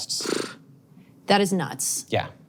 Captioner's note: blows raspberries